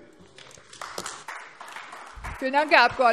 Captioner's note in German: Beifall AfD